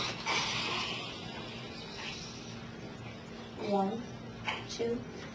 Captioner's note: students chattering